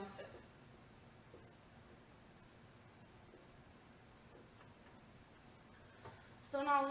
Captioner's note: writing on whiteboard